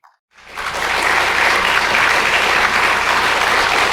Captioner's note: audience clapping